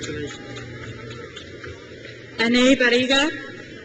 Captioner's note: crowd cheers